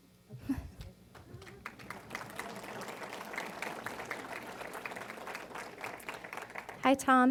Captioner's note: applause